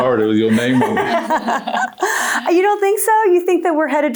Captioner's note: people laughing